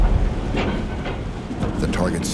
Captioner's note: crane clunks